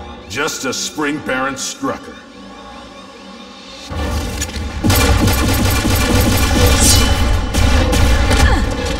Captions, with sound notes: just to spring Baron Strucker. [BLASTING]